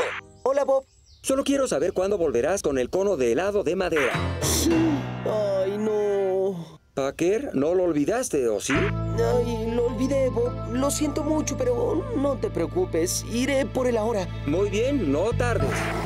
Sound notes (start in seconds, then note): 4.6 gasps